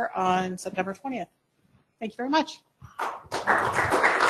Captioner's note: applause